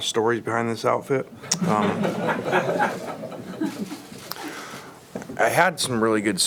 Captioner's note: audience laughs